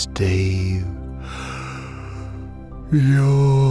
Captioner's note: yawn